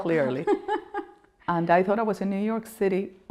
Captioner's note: laughing